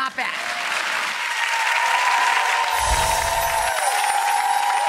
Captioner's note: audience applause